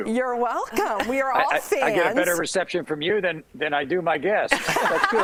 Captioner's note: laughter